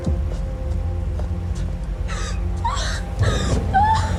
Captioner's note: gasps, crying